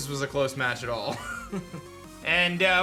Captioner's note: giggles